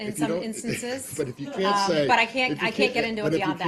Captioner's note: laughter